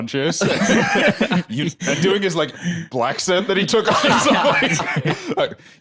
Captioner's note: laughs